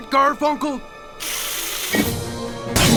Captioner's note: Uglina hisses